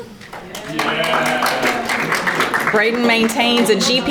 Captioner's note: audience applauding